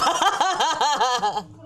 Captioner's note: laughing